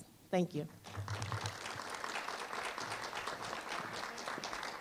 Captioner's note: applause